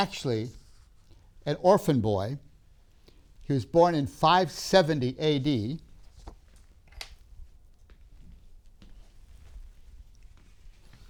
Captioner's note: papers rustling